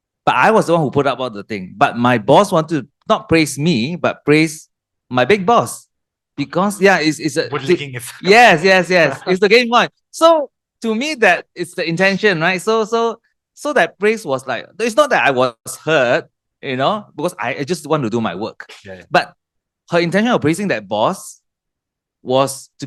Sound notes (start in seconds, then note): 8.1 laughters